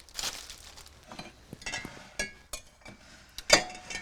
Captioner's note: clinking of bottles